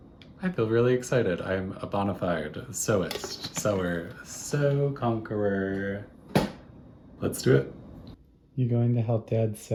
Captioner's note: singsongy